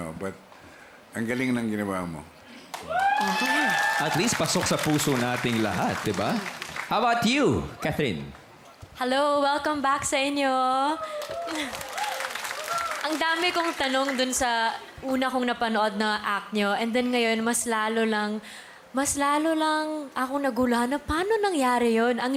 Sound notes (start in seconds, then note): 2.7 audience cheering, clapping; 11.0 cheering, clapping; 11.3 giggles